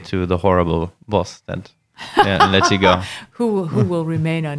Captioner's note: laughing